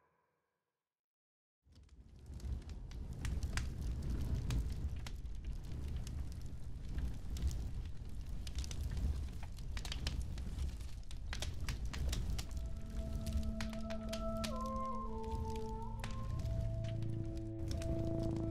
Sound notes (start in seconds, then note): 2.7 fire crackling